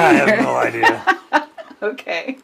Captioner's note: laughs